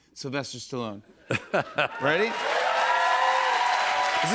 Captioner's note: laughs; cheers and applause